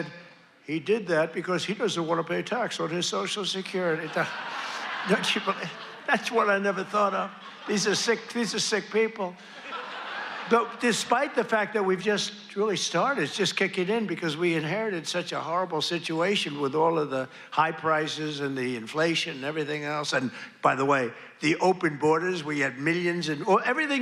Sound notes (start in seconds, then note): 0.1 cheers and applause; 7.6 laughter